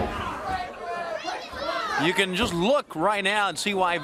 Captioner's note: crowd chatter